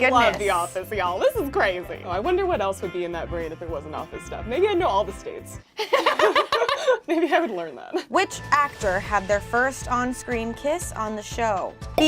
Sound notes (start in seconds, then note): 5.8 laughs